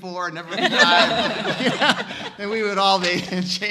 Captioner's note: all laughing